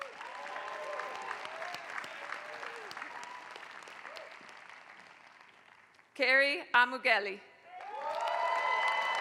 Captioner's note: applause; applause